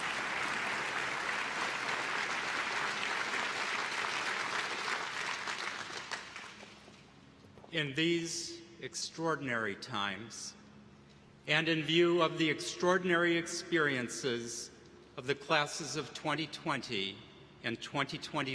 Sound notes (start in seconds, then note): 7.6 applause